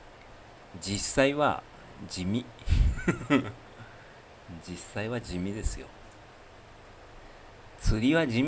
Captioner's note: laughter